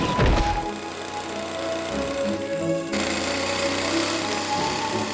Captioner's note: machine whirs